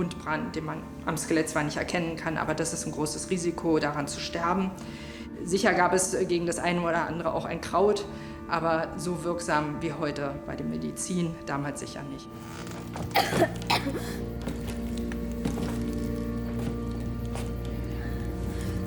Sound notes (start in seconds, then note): 13.1 the girl coughs